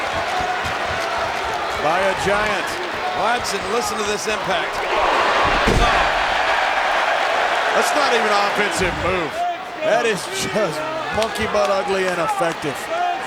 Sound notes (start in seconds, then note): 4.7 body thuds; 5.6 crowd roars